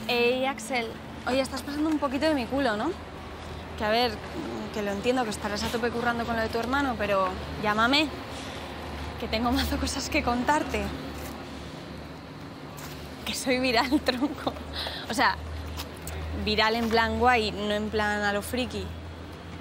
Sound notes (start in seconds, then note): 14.6 laughs